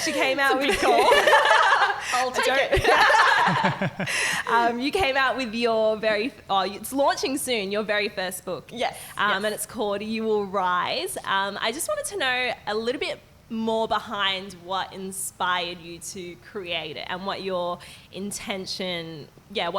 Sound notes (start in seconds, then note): 0.4 laughing